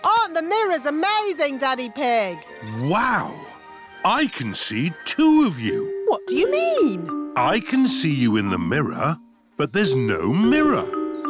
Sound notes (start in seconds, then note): none